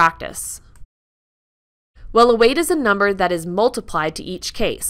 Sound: click

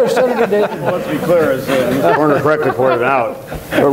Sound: long laughter

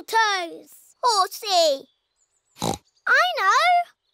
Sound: oinks

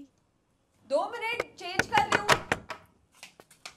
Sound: knocking

